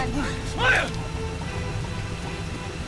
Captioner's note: shouts